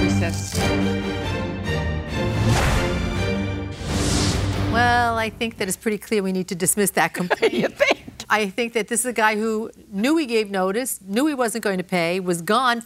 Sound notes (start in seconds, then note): 7.2 laughs